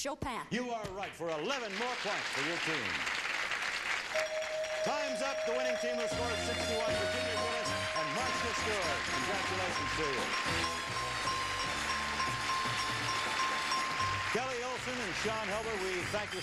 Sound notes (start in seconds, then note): 3.6 chiming; 10.0 applause